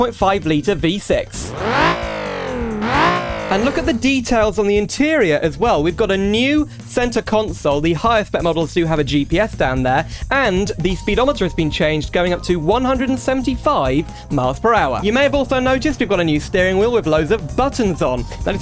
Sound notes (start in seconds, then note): 1.2 engine Noise